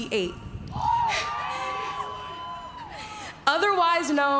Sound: cheering

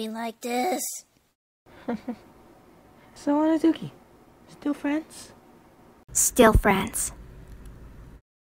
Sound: giggle

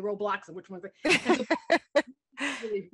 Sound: laughter

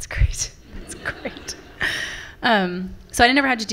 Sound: laughter from the audience

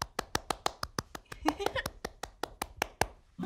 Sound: claps

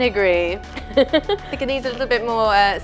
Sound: laughing

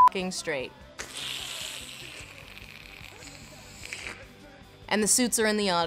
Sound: sluUuuUUuUuuUuUUurp

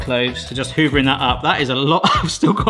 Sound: laughs

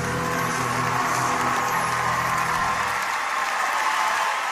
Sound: audience cheering

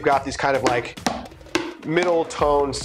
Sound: taps

